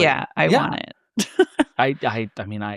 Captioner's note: laughing